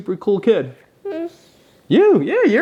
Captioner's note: coos